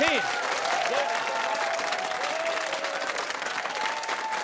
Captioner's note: cheers and applause